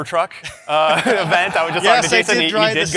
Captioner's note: laughter